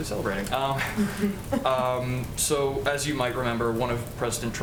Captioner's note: laughter